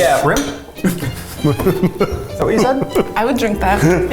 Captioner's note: laughing